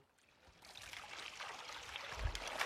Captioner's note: splashing